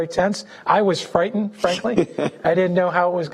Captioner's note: laughing